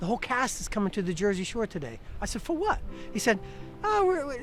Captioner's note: none